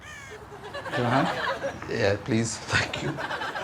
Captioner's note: crow cawing